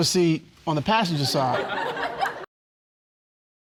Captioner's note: laughter